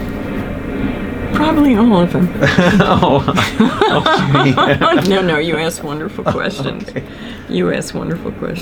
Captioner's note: laughter